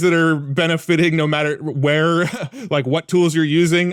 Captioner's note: laughs